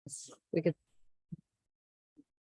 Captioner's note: pause